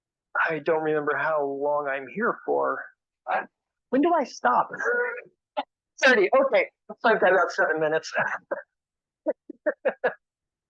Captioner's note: laughs